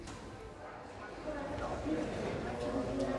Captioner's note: chatter